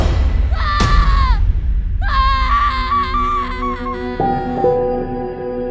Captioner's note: screams